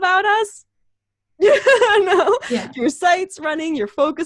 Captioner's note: laughs